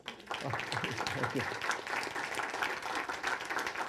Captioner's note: clapping